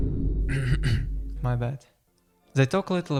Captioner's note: clears throat